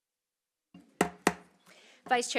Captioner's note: silence; gavel hitting dais